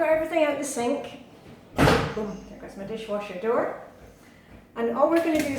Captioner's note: boom! That was my dishwasher door